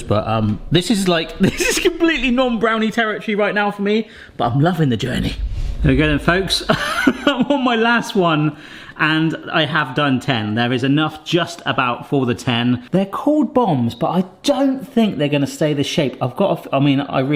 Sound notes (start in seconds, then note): 6.6 chuckling